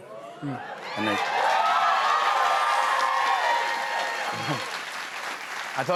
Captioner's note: cheers and applause